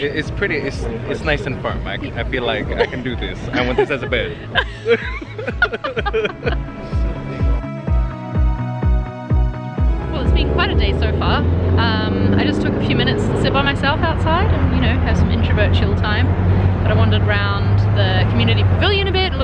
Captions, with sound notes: - It's nice and firm, I feel like I can do this, - I want this as a bed. (laughter) (dance music) - Well it's been quite a day so far. I just took a few minutes to sit by myself outside, and you know, have some introvert chill time, but I wondered around the community pavilion a bit